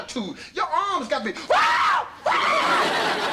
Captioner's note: screams; audience laughter